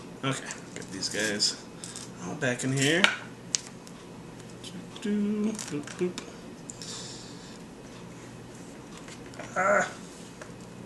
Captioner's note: humming